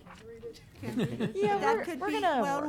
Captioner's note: laughing